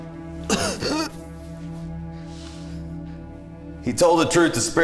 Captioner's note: Brown coughing